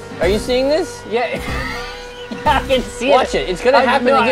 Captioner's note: laughs